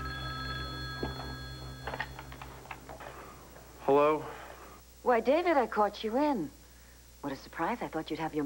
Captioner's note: telephone rings